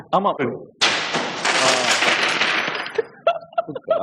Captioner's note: glass shatters